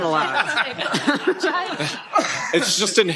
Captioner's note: laughter